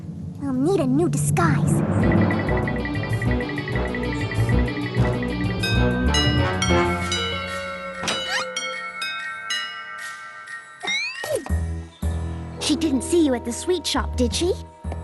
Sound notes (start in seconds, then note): 5.6 chimes play